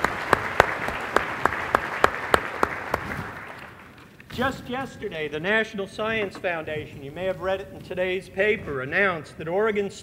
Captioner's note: applause